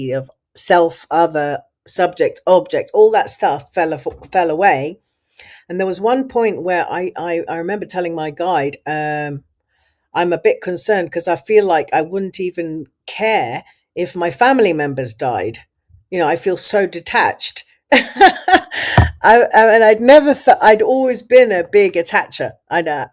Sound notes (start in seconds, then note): 19.0 laughs